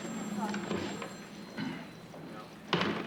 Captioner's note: clears throat